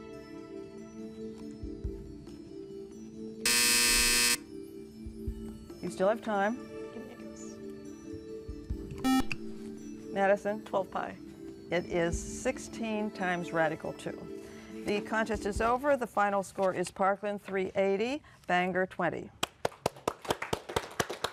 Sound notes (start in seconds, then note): 1.7 buzzer; 5.2 whispering; 7.1 buzzer; 17.7 applause